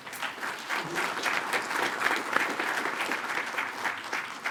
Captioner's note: attendees applaud